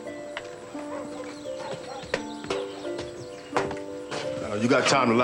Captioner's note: dog barking in distance